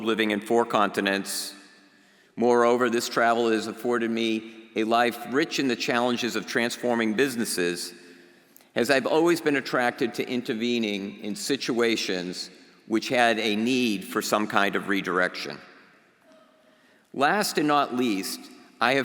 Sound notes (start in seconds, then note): none